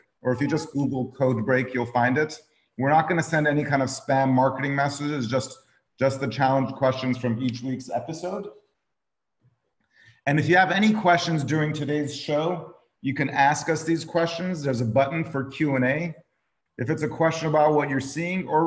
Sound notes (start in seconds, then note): none